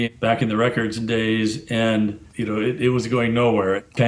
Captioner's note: none